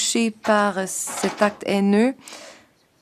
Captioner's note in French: voix de l'interprète